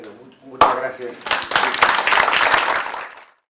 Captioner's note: aplausos